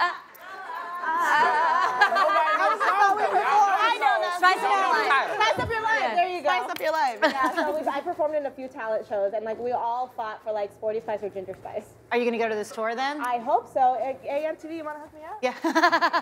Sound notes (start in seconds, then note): 4.7 laughing